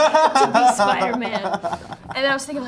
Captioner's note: group laughing